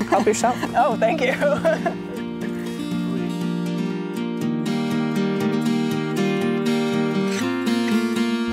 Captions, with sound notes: Help yourself. - Oh, thank you. (laughs) (bright music)